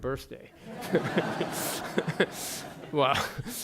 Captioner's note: laughter